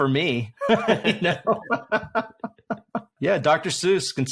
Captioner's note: both laugh